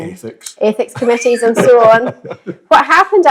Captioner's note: laughter